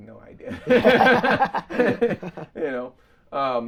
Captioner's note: both laughing